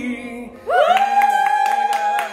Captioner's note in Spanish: Cheering